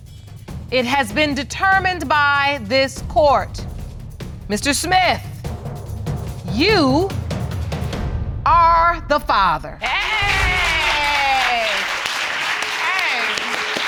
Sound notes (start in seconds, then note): 9.8 applause